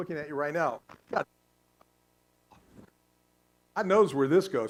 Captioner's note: static